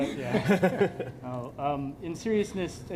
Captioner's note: laughter